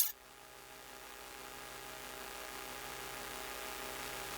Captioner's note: static buzzing